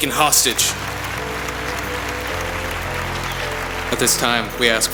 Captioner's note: applause